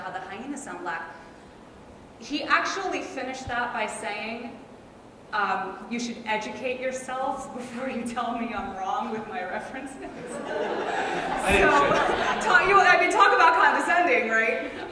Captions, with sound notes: "how the hyenas sound black," he actually finished that by saying, "You should educate yourselves "before you tell me I'm wrong with my references." (laughs) So talk about condescending, right?